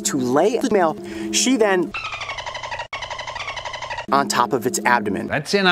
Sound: dolphin noises

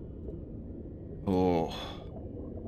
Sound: sad sigh

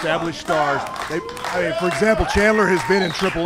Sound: clapping

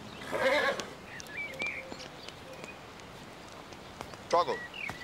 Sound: horse neighing

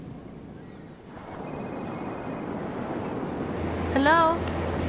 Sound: phone ringing

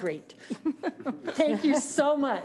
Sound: laughing

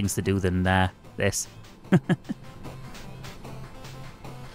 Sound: laughs

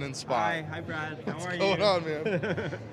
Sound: laughs

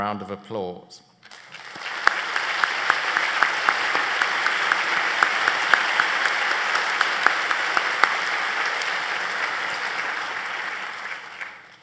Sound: applause

